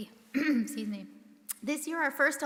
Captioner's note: clears throat